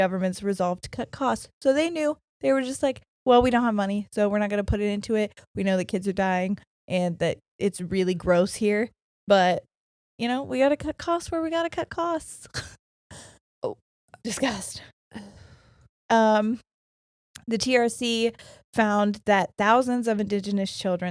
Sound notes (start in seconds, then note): 13.5 chuckles